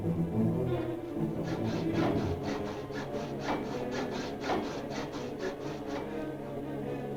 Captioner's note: dramatic music; sawing sound; dramatic music; soft dramatic music